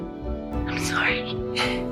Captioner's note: whispering